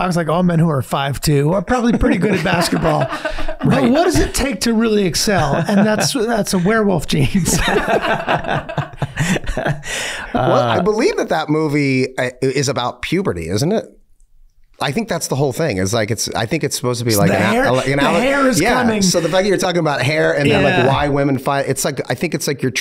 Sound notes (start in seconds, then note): 2.0 laughing; 8.1 all laughing